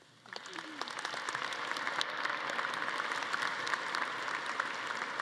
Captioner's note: audience applauding